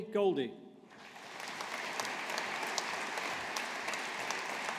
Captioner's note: audience applauding